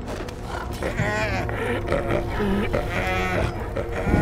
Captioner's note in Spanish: Balidos